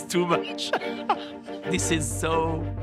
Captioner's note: laughing